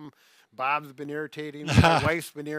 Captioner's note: laughing amusingly